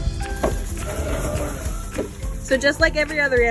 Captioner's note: sheep bleating